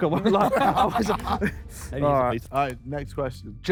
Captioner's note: Sidemen laugh